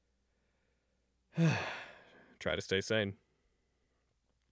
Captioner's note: sigh